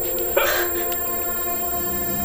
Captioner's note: Morales grunting, Maya gasps